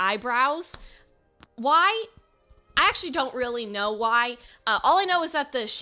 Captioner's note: stutters